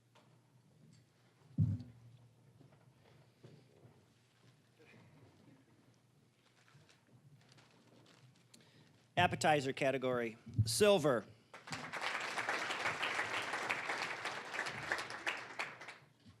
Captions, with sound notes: Appetizer category, silver. (applause)